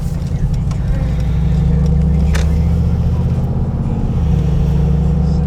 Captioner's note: car engine revving